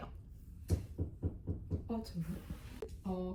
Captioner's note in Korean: 누가 노크함